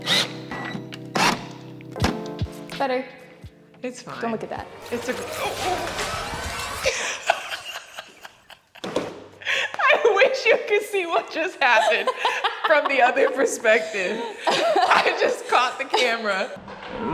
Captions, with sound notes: - It's better. - It's fine. (horror sting) (laughing) I wish you could see what just happened from the other perspective. I just caught the camera.